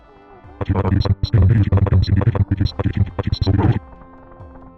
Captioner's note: nightmarishly bit-crushed voice lines